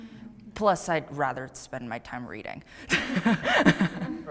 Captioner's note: laughs